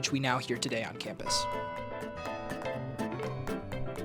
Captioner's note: bells tolling